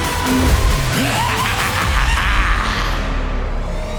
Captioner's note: evil Laugh